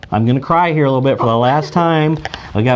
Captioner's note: laughs